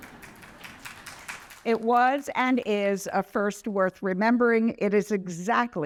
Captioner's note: applause